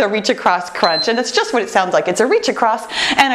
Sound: timer beeps

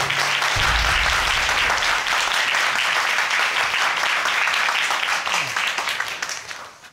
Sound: crowd clapping

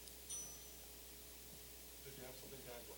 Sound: bell dinging

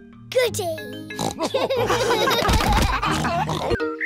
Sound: oinks; all laugh

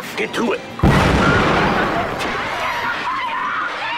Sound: explosion

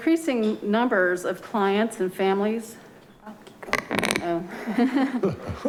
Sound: laughing

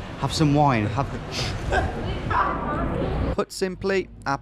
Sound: both laughing

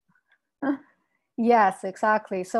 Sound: giggles

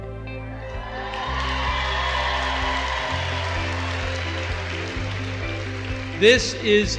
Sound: applause

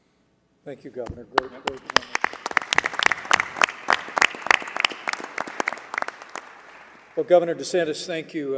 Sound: applause

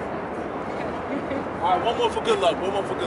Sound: giggling

